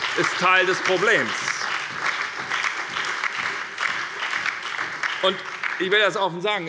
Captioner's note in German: Beifall bei der SPD und der FDP